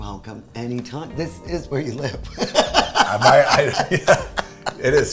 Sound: laughs

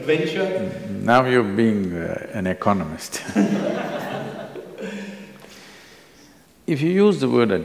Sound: laughter

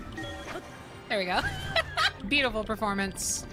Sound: laughter

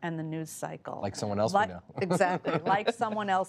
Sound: laughter

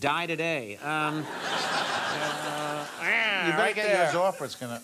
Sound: audience laughs

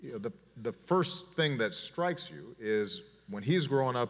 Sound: none

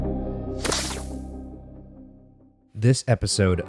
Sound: electrical buzzing

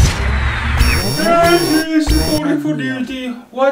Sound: siren sounds

